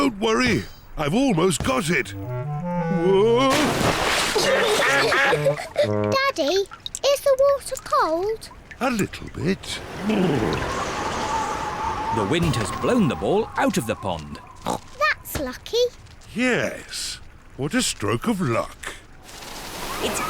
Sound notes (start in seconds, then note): 4.6 giggling; 9.5 wind howls